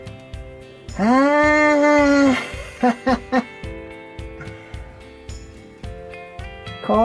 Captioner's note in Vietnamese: cười